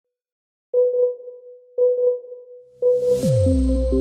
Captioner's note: beeping